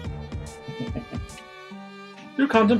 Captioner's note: chuckles